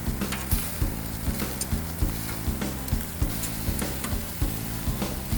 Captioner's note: upbeat music; sizzling